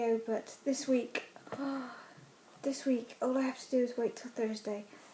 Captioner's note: gasp